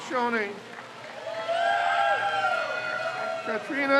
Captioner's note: crowd cheers